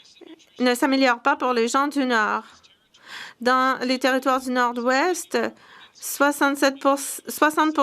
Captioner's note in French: voix de l'interprète